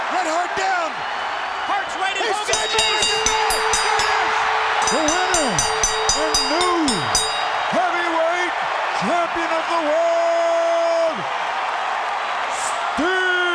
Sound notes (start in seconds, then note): 2.5 bell rings; 4.0 audience cheering